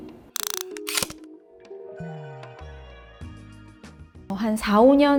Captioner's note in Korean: 다이얼 소리